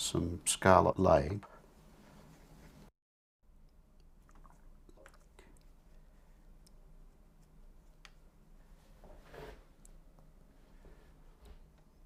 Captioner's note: silence